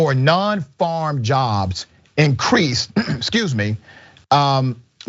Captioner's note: cough